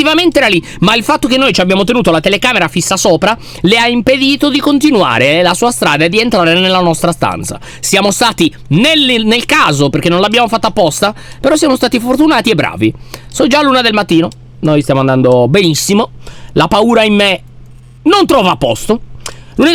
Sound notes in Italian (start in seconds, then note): none